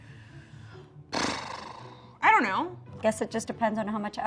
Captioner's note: sighs